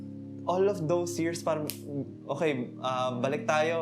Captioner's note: snaps